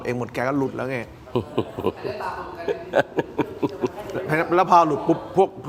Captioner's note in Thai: เสียงหัวเราะ